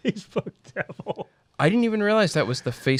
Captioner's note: laughs